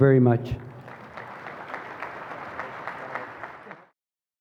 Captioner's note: applause